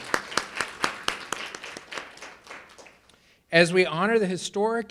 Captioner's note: and audience applauding